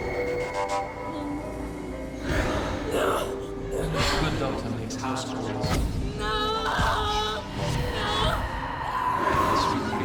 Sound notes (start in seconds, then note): 6.2 crying